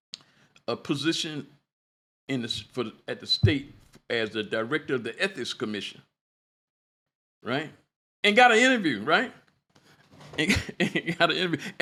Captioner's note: laughter